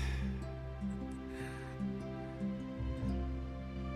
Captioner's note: Mark chuckles